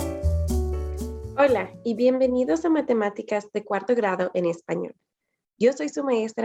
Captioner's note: speaking in foreign language